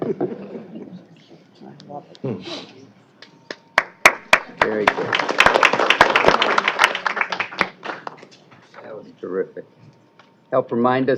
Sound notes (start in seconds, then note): 0.0 laughter; 3.7 applause